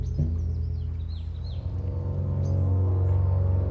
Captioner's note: birds chirping